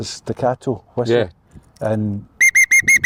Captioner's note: staccato whistle